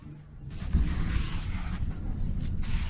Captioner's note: thunder rumbling